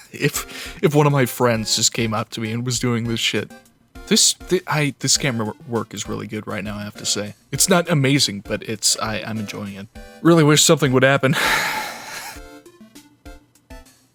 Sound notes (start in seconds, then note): 11.4 sigh